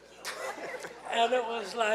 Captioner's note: laughing